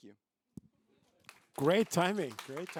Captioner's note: applause